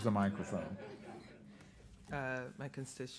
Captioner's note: group laughing